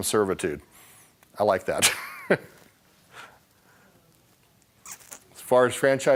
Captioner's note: laughing